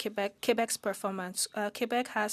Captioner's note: speaking French